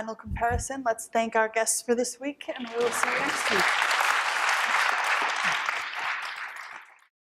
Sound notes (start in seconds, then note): 4.7 applause